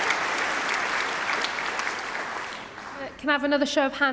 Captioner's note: applause